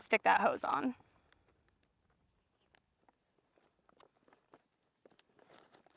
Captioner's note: footsteps crunching